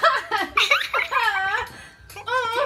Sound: laughing

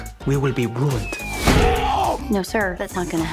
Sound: yells

